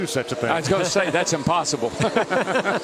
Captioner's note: laughter